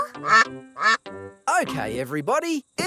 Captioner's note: quacking